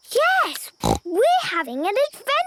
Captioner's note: snort